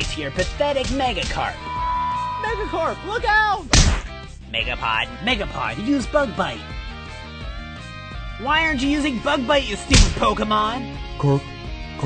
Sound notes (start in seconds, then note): 0.8 Megakarp whipping distantly; 1.3 graphics chiming; 4.4 cartoonish music; 9.9 Megapod thuds